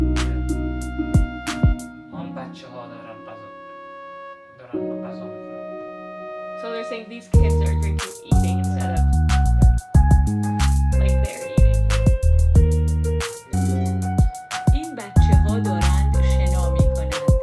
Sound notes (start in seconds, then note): 3.2 speaking Farsi